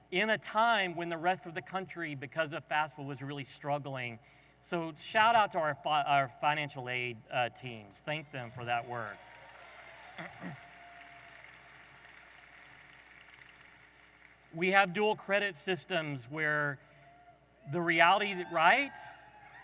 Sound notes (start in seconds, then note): 8.3 audience applauding